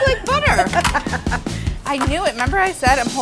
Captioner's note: laughter